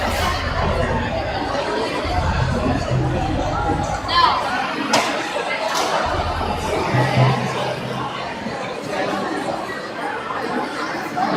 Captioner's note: crowd chattering